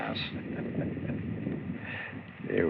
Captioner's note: chuckles